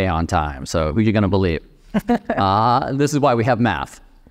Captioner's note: laughing